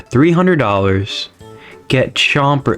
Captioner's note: inhales Oxygen